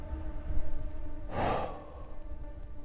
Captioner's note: heavy exhale